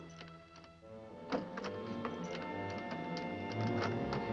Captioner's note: door locking; ominous music